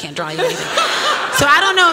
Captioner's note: laughter